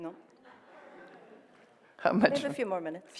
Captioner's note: audience chuckles